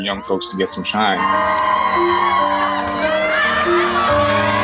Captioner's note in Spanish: audiencia animando